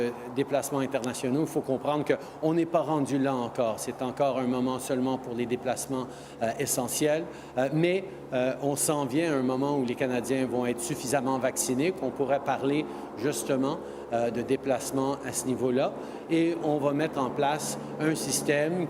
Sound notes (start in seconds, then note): 1.5 speaking french